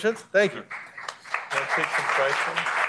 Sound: applause

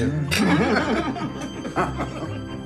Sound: laughter

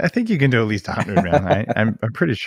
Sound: laughs

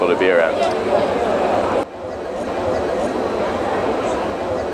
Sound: students talking

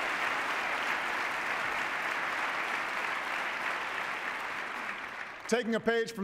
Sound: applause

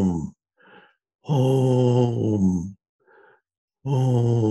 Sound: sighs

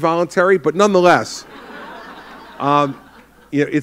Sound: laughter

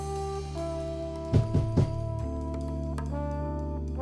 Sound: hard knock on Door

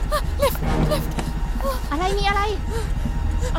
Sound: Malay Language

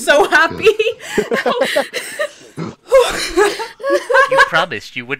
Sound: laughter

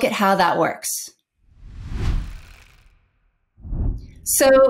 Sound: logo whooshes

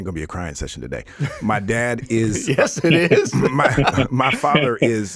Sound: laughing

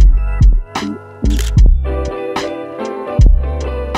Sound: camera shutter clicks

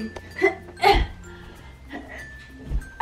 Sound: gasps

